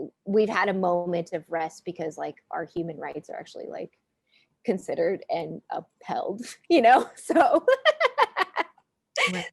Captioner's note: laughing